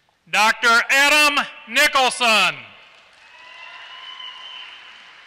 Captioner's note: applause